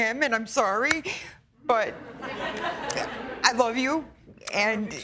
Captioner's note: laughter